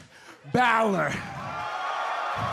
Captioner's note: cheers and applause